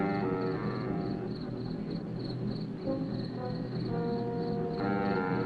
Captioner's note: crickets chirping; tense instrumental music